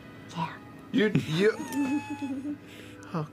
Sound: laughs; someone wheezes

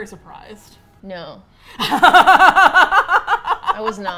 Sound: both laugh

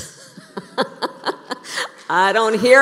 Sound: laughter

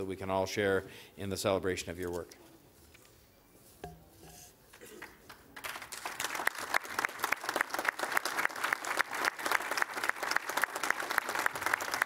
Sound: applause

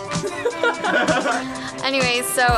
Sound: laughs

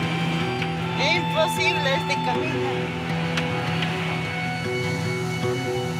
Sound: speaking in foreign language

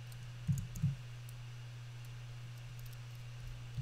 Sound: typing

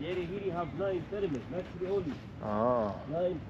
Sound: speaking in foreign language

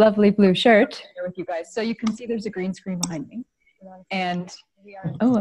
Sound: audio is repeating what she just said - feedback

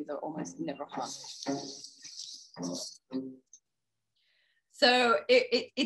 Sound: bonobos screeching

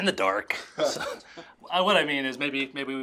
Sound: laughing

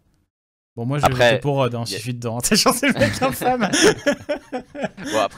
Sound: laughs

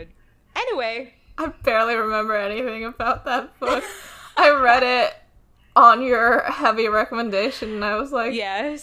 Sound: laughs

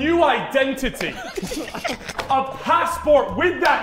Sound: Sidemen laughing

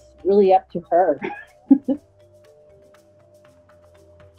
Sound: chuckles

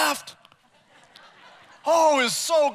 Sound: congregation laughs

